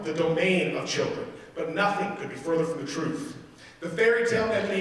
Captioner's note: none